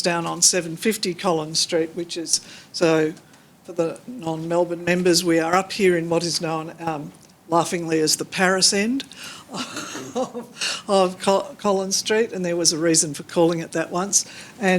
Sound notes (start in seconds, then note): 9.5 laughs